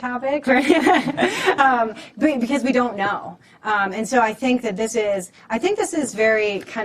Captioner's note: laughter